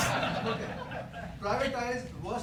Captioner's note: laughter